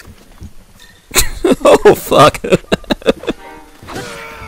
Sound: laughs

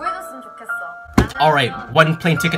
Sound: slams table

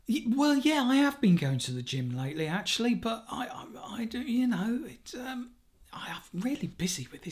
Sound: none

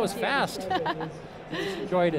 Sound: laughs

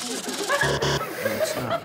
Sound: buzzer

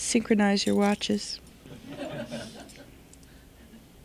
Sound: laughter

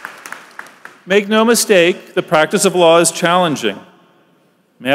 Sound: applause

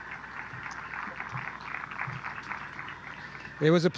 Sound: applause

